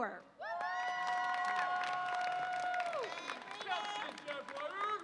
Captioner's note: audience applauds and cheers